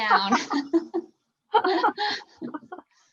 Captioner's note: laughs